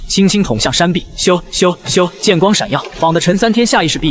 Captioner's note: whoosh! Whoosh! Whoosh!